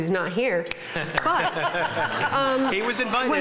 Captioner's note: laughing